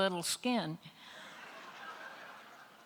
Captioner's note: laughter